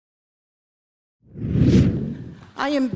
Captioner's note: whooshing